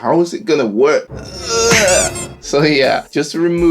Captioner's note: groaning